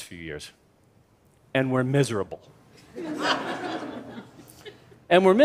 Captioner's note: laughter